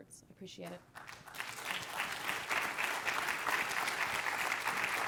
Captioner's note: applause